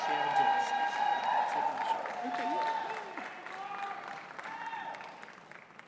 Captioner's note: audience cheers and applauds